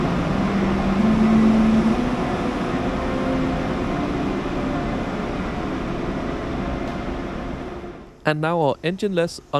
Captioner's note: engine sounds